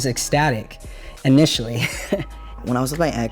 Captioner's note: laughs